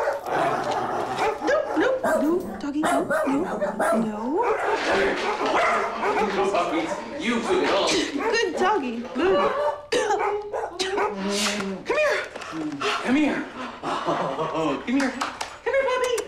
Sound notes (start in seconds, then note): 4.2 dogs barking; 11.0 sneezing; 11.2 dogs barking